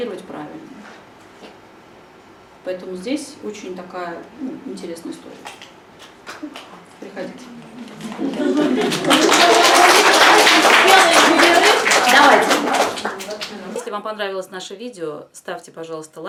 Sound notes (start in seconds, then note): 8.0 thunderous applause